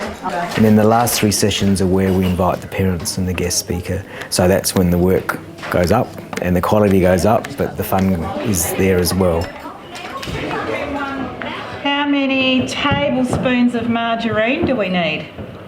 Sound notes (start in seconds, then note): 9.9 chatter